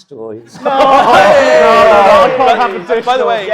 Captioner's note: talking in unison